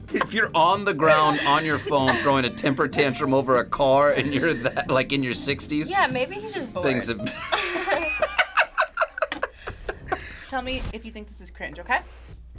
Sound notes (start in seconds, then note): 7.2 both laugh